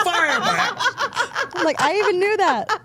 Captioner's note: Steph laughing